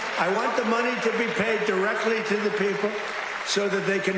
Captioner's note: applause